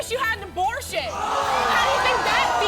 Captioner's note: gasping